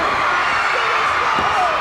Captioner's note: crowd cheers